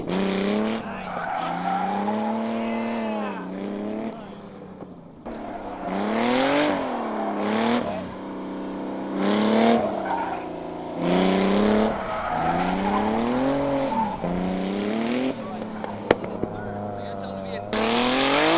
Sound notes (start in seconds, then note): 0.8 crowd cheering; 5.3 engine roaring